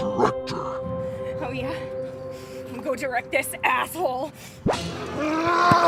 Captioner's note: monsters growling